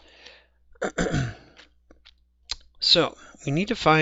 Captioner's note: clears throat